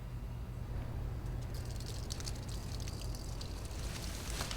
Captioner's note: trickling sound